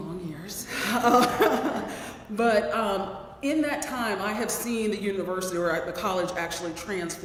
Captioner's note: laugh